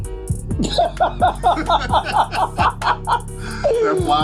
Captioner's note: laughing